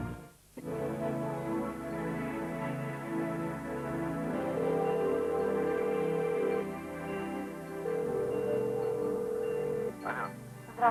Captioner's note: beeps